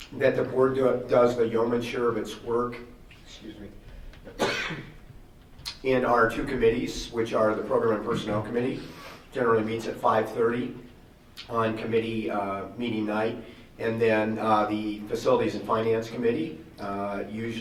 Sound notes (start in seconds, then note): 4.2 coughs